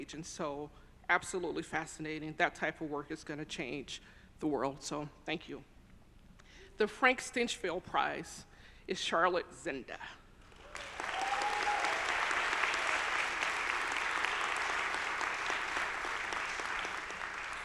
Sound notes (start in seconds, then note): 10.5 audience applauding; 10.6 audience cheering